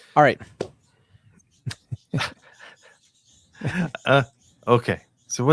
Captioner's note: laughing